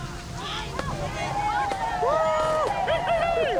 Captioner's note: cheering